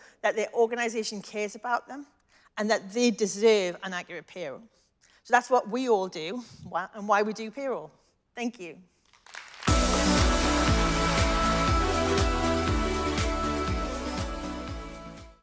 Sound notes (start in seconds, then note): 9.1 audience applauding; 9.6 upbeat music